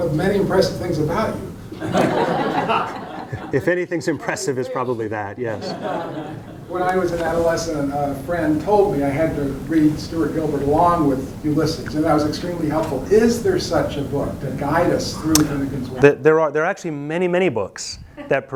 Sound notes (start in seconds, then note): 1.7 students laugh; 5.5 students laugh